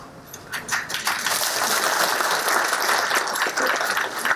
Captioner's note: applause